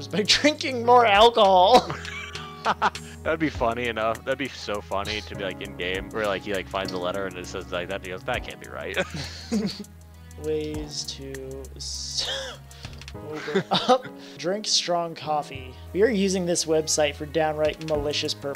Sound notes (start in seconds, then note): 8.9 both Laugh